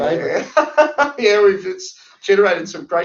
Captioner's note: laughs